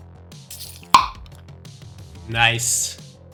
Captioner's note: mouth popping